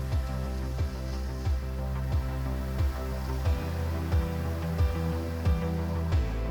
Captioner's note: waves crashing; wind blowing